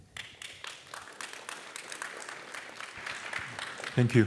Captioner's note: applause